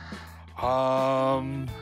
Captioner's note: none